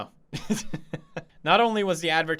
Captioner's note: chuckles